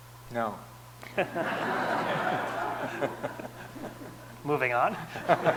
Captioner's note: audience laughing